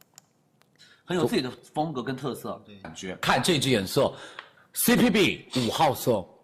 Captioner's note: mouse clicks; speaking foreign language